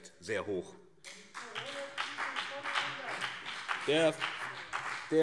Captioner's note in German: Beifall BÜNDNIS 90/DIE GRÜNEN